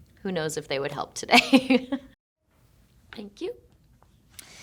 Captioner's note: Shailene chuckling